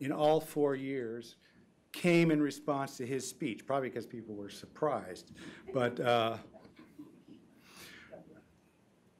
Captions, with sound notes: in all four years, came in response to his speech. Probably because people were surprised. (group laughing)